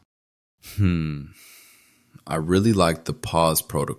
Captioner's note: hmmm… deep exhale